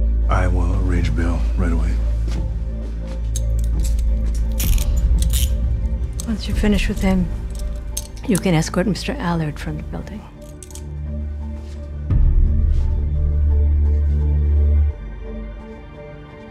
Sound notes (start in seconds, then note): 3.3 handcuffs click; 5.0 gentle tense music continues; 12.3 gentle tense music continues